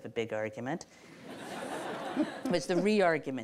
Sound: audience laughs

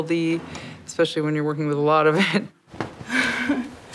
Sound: laughs

